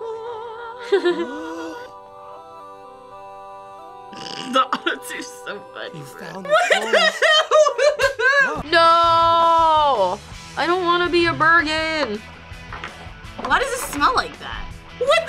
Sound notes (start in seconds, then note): 0.8 laughs; 6.2 laughs